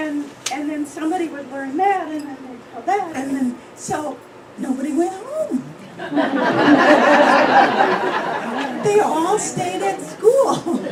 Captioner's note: laughter